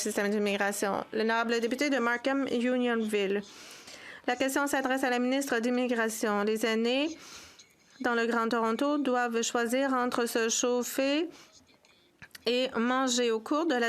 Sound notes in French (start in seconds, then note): 5.7 voix de l'interprète